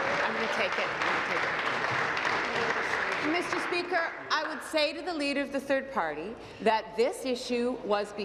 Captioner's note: applause